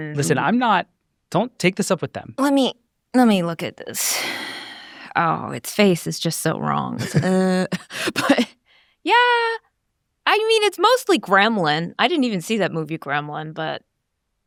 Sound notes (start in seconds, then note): 4.0 sighs; 7.6 groans